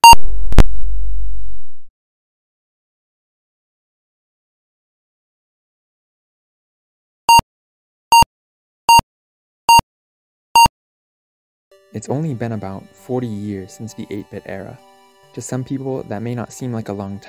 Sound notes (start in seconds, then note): 3.0 beep, Beep, Beep, Beep, Beep